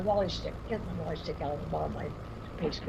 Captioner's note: murmurs